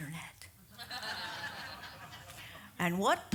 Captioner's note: audience laughs